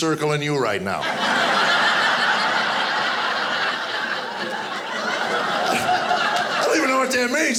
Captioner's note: audience laughing